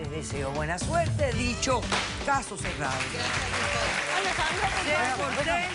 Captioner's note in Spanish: Aplausos